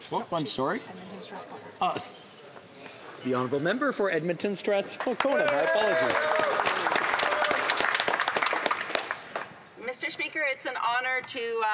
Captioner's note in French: voix de l'interprète